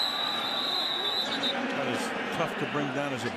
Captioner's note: whistle